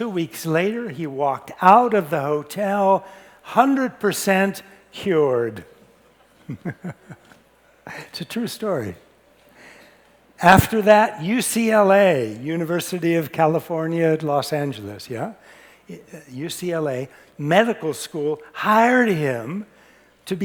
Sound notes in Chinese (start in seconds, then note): 6.4 輕笑